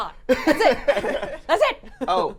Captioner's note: laughing